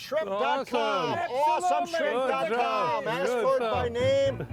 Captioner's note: group cheering